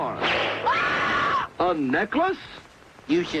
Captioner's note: air whoosh; woman screaming